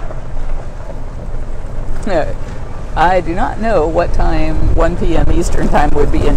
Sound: cart noise

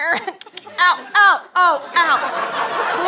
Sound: mouth click

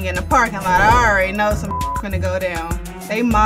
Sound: beep

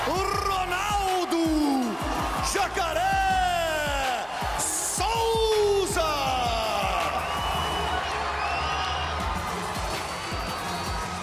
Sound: speaking foreign language

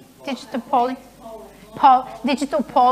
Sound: murmuring

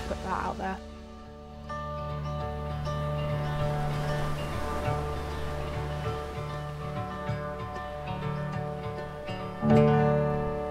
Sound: wave sounds

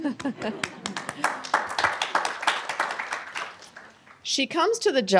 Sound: laughs; applause

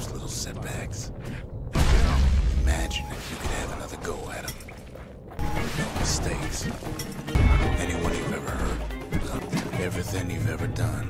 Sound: in-game audio

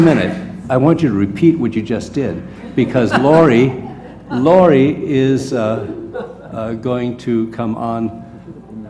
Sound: laugh

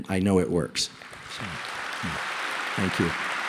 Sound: applause

